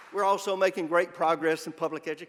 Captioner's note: applause